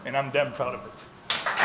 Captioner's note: applause